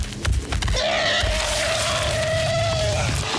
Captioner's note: elephant screaming